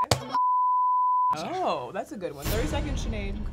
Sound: beep; buzzer

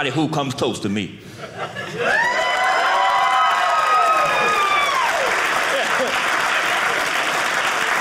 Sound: audience cheering

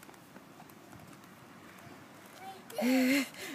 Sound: pause

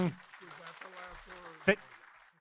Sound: audience applauding

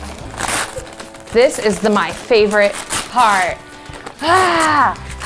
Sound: groans

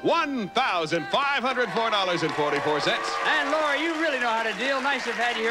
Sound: audience applauding

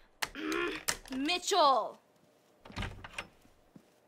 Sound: groans

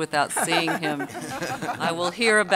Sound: audience laughter

